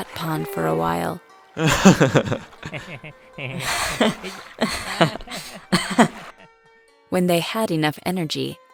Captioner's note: laugh